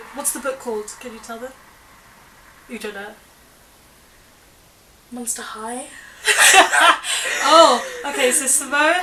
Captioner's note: laughter